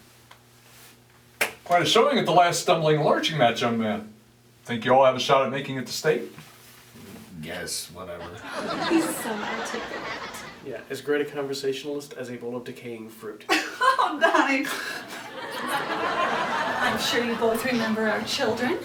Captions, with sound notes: [handshake slap] Quite a showing at the last stumbling and lurching match, young man. Think you all have a shot at making it to State? I guess... Whatever. He's so articulate! Yeah, as great a conversationalist as a bowl of decaying fruit. [audience laughing] [laughing] He's so funny! I'm sure you both remember our children,